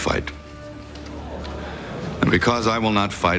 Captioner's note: crowd murmurs